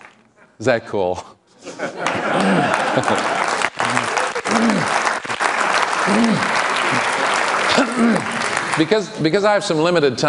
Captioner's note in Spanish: Aplausos